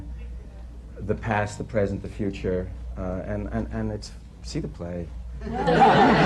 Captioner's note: laughter